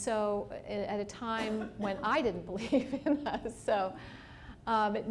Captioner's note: laughs